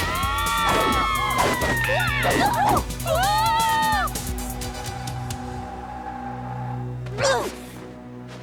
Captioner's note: screaming; grunt